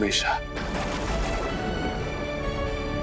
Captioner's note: thundering